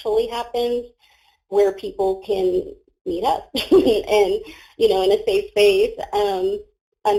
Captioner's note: laughs